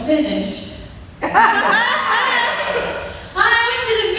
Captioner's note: laughter